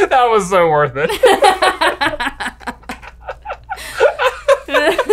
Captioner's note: laughs